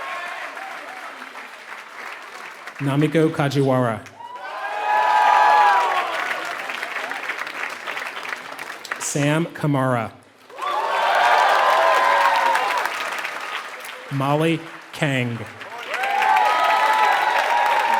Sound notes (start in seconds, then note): 0.0 applause